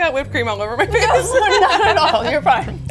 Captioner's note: both laugh